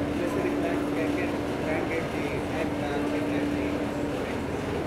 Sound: audience speaks softly

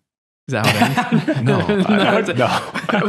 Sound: laughter

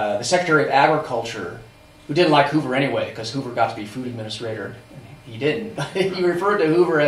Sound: laughs

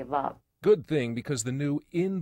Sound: voiceover

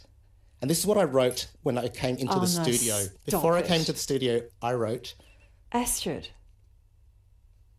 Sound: laughs

